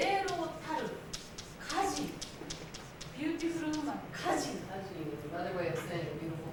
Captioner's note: speaking Japanes